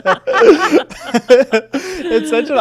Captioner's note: everyone laughing